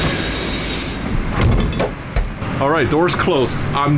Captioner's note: door clanks